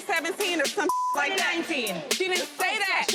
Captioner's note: beep